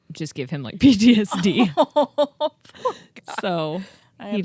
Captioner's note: both laughing